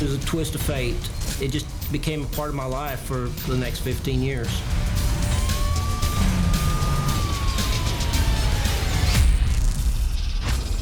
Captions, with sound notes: - It was a twist of fate. It just became a part of my life for the next 15 years. [siren wails] [slow dramatic music]